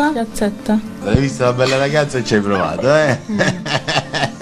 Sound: laughs

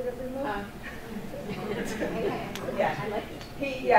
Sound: audience laughing softly

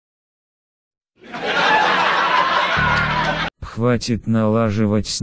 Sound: Everyone laughs except the Duck Guy

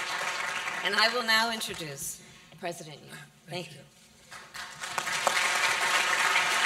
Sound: applause; applause

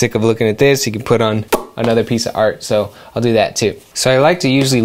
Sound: pop

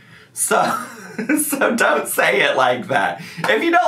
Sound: laughing

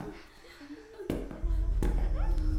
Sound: footsteps sound

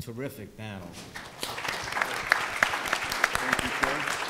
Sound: applause

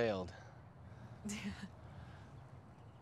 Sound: laughs

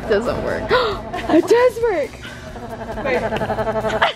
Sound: gasps; all laughing

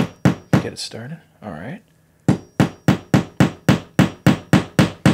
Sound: hammering

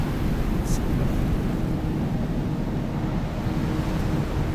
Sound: water crashing on shore

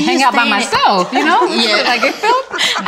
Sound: ladies laughing

